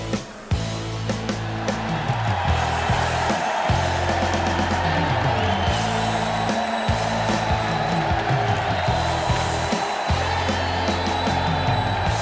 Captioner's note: crowd chatter; bell ringing